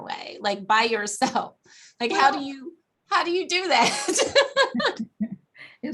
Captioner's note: laughs